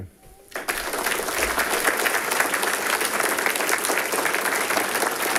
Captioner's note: audience applauding